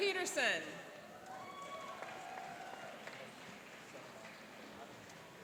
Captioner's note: cheering and applauding